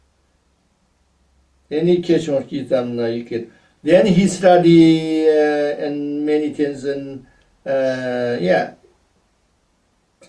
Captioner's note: tibetan; tibetan